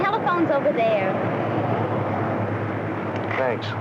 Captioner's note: passing car traffic